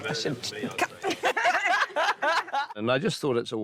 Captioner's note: laughing